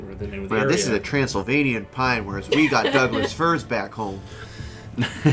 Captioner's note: chuckles